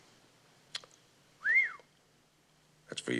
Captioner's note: Mac whistles